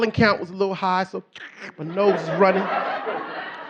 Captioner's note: snorts